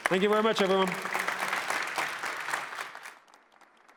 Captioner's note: applause